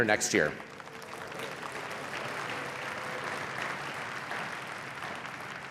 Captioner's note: applause